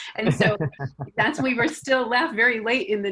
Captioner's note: laughs